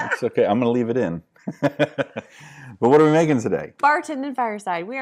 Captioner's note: laughing